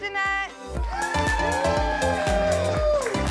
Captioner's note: cheering